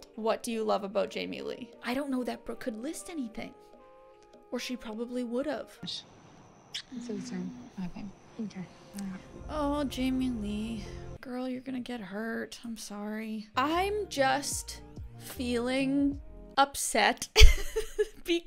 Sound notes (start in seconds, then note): 6.7 lips smacking; 17.4 giggling